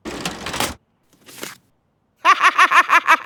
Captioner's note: laughs